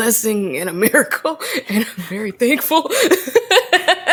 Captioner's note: laughs